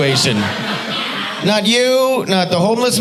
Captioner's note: audience laughing